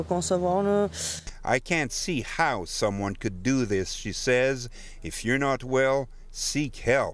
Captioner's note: speaking FRENCH